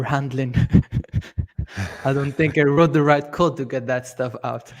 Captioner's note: laughs